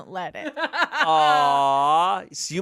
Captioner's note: laughs